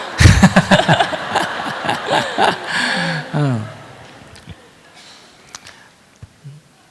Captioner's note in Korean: 청중 웃음